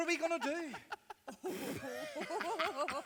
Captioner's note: punks giggle